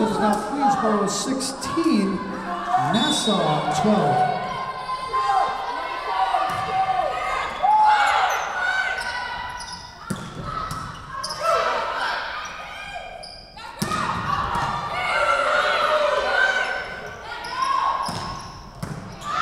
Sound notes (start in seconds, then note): 2.9 whistle blowing